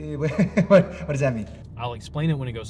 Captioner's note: laughs